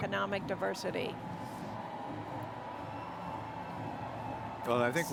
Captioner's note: attendees cheering